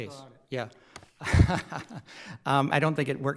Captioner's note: laughs